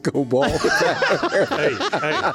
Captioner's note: laughing